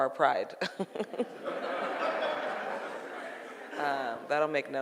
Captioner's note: laughing; audience laughing